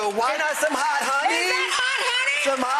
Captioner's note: audience cheering